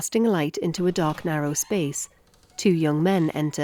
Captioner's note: door creaks